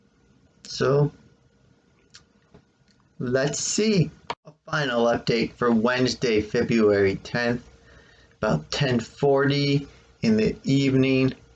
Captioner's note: click